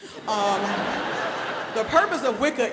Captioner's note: audience laughs